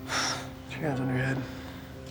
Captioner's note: exhales